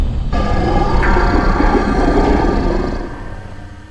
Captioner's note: intense growling